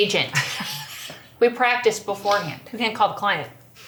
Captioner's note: laughs